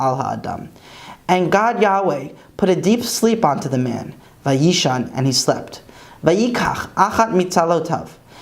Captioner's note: Hebrew; Hebrew